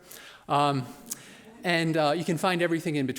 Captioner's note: chuckling